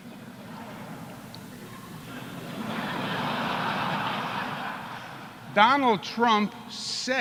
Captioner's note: laughter